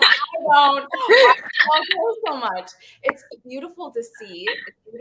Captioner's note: everyone laughs